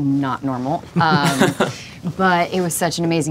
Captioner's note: laughter